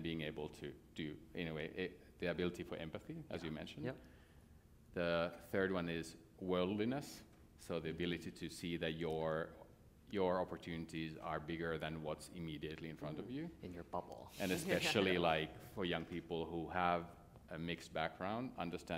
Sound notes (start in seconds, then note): 14.8 laughter